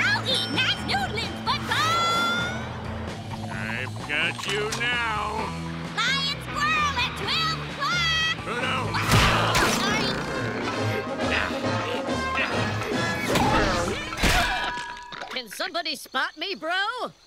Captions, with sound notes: Nice noodling, SpongeBob. I've got you now! Flying squirrel at 12 o'clock! Oh, no! Sorry. [grunting] Can somebody spot me, bro?